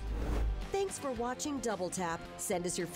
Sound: voiceover

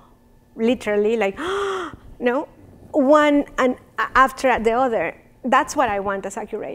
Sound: gasps

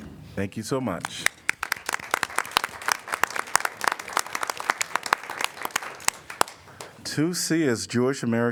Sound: applause

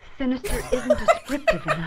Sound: laughs

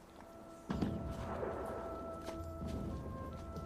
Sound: distant gunfire and explosions

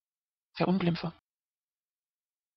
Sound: fast Pronunciation

